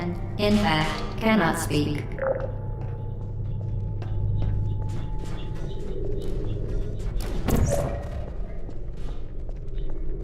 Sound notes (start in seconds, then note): none